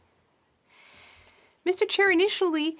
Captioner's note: speaking FRENCH